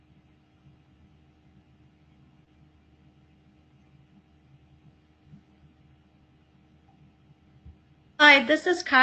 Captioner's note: pause